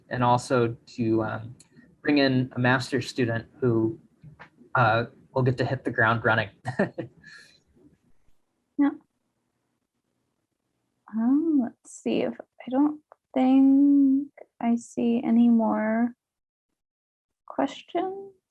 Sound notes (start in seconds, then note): 10.1 chuckles